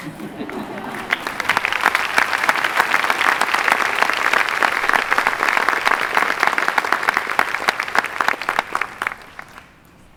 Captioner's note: clapping